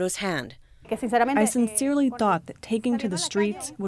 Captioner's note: through translator